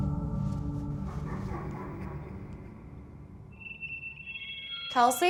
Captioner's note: ghostly laughter